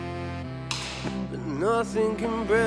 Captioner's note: rifle fires